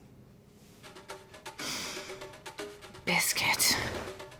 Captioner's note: sniffing